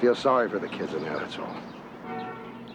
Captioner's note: vehicle horn honking